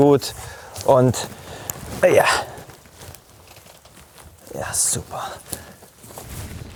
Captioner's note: groaning